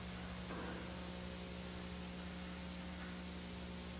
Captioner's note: faint clattering